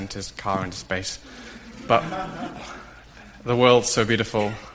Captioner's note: audience laughs